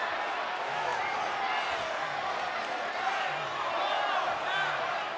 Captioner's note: crowd cheering